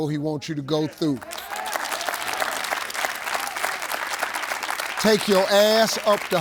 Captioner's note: audience clapping